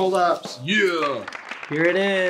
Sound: crowd clapping

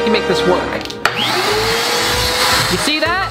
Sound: vacuuming sound

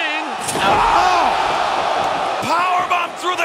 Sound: fans cheering

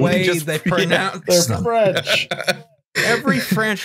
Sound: French

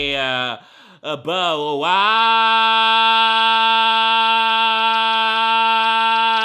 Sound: in dramatic voice

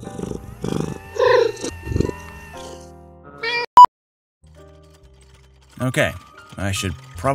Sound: meow

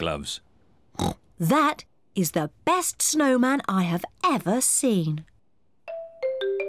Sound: snorts

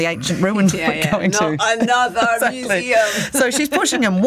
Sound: laughs

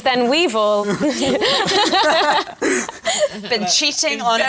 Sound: laughter

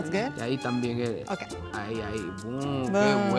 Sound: speaking in foreign language

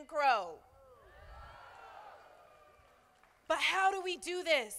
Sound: crowd applauding

